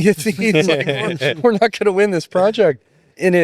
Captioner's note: both laughing